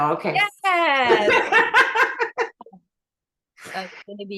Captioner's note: laughing